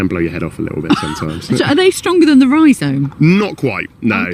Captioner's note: laughs